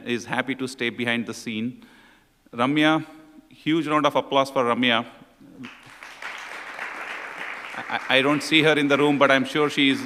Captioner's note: applause